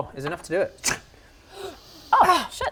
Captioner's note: gasp